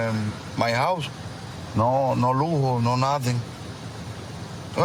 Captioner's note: speaking spanish